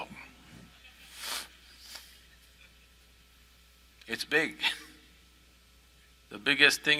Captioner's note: all laugh